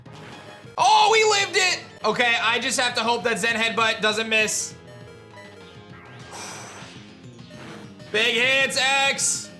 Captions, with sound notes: Oh, we lived it! Okay. I just have to hope that Zen Headbutt doesn't miss. (sighs in relief) Big hits, X!